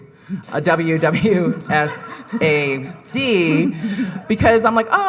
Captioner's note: audience laughing